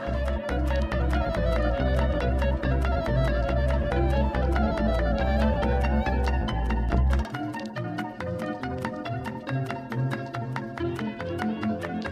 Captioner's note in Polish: Aplauz